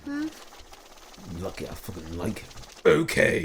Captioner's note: grumble